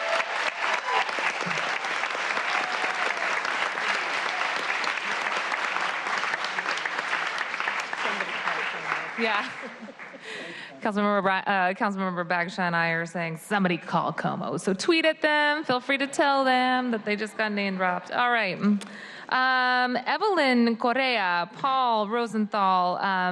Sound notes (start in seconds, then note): 5.3 applause